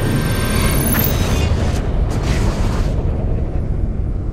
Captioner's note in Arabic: انفجار يصم الآذان